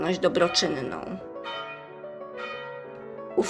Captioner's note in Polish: bicie dzwonu